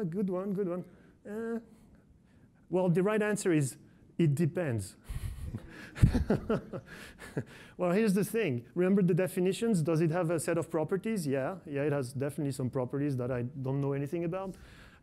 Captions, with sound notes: Good one, good one. Well, the right answer is it depends. (laughs) Well here's the thing, remember the definitions. Does it have a set of properties? Yeah, it has definitely some properties that I don't know anything about.